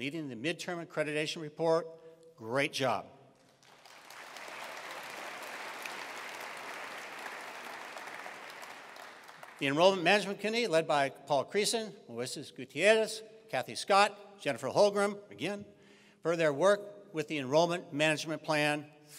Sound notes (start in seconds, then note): 3.5 attendees applauding